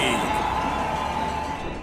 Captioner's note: crowd cheering